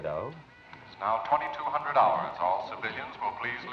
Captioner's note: voice On Loudspeaker